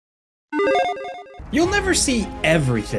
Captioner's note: electronic chiming